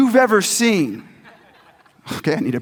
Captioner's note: audience laughs